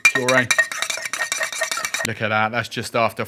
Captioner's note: spoon clinking on cup